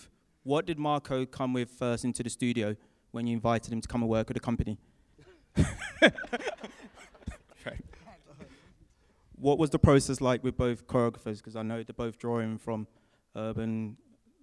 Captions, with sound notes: What did Marco come with first into the studio when you invited him to come and work with the company? [Laughs] Right. What was the process like with both choreographers? Because I know they're both drawing from urban,